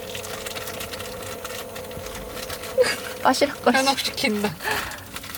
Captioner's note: sigh